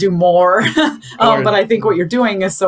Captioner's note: chuckles